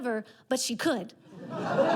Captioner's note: audience laughter